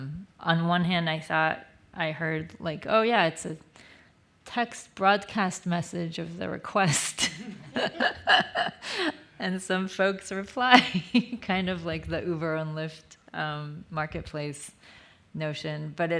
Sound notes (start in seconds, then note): 7.2 laughs